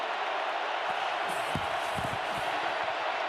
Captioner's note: cheering